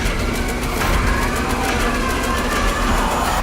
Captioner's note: screaming